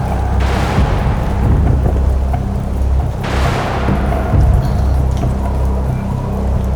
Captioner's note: rain pattering; thunder rumbling